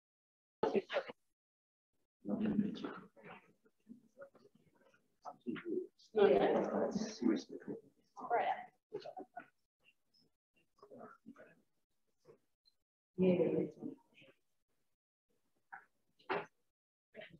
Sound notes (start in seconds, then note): 0.5 distorted audio